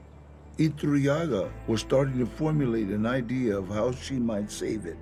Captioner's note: in English